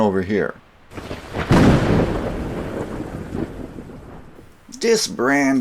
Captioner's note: thunder